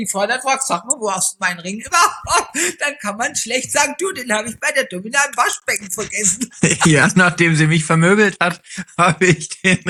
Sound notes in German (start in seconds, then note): 5.9 gelächter